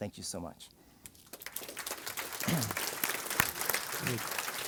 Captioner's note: applause